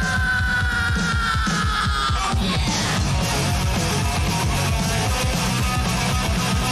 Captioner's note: screaming